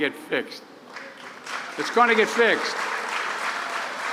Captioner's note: applause